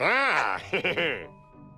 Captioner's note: chuckles